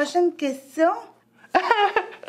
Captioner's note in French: rire